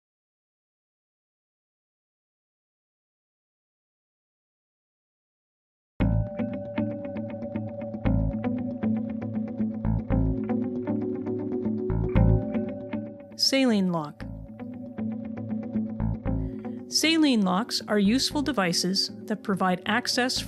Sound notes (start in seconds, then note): 6.0 relaxing instrumental music; 13.7 voiceover